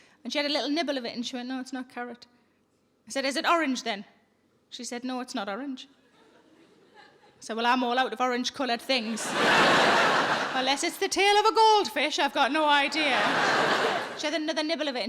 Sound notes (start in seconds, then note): 9.0 audience laughing